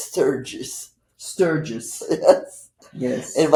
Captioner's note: laughing